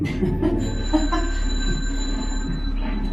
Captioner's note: old phone rings